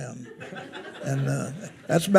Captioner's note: attendees laughing